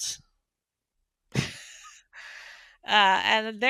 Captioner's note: laughs